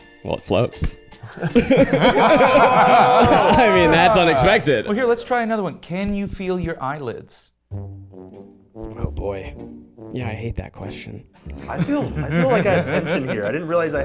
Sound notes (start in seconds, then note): 1.2 people laughing; 7.7 playful instrumental music; 11.6 people laughing